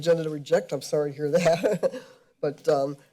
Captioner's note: laughs